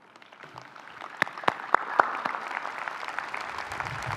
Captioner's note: applause